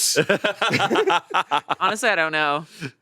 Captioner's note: both laughing